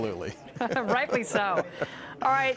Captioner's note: laughter